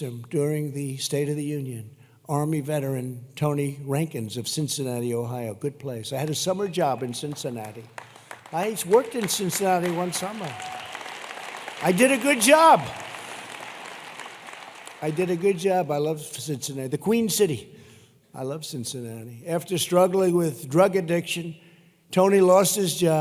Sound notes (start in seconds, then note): 7.8 applause